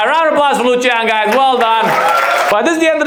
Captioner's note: audience applauds